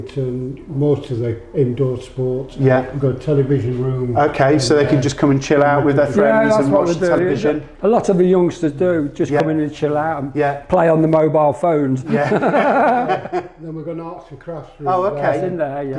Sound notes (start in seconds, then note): 12.0 laughter